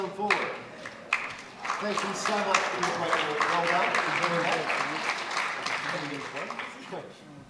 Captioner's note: applause